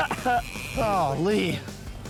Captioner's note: man laughing